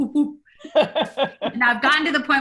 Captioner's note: woman laughs